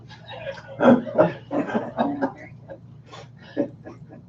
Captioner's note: laughing